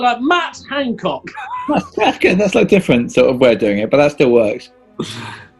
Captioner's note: giggling